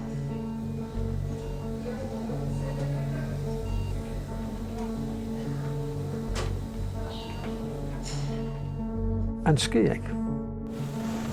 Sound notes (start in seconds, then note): 2.5 medical equipment beeping